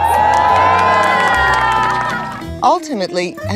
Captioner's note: crowd cheers